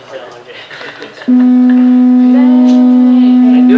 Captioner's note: low pitch hum